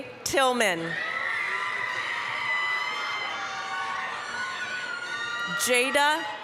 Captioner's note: applause, cheering